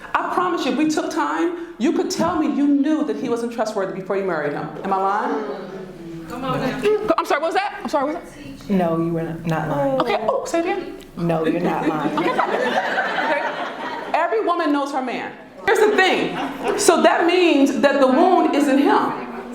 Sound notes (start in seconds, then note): 12.0 laughter